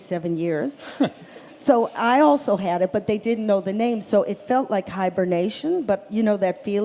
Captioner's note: laughter